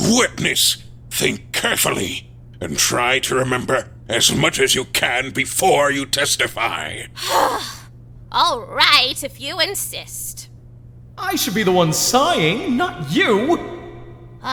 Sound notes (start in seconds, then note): 7.2 sigh